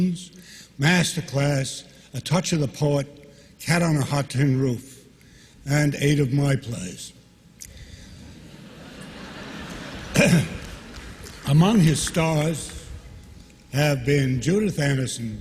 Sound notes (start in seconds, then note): 11.7 laughter